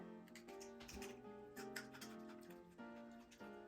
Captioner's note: chews